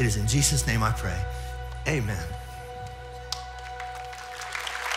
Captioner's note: audience applauds